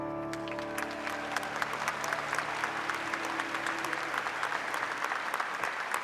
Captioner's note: audience clapping